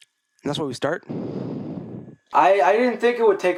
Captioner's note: exhales into shitty-ass microphone